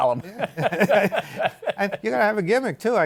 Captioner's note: laughter